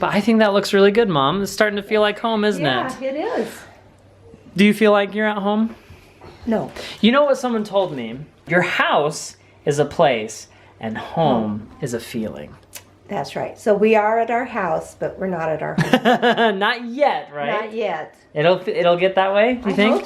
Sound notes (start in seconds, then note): 15.8 laughing